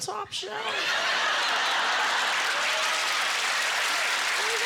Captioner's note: laughter; cheers and applause